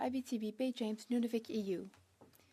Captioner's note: speaking French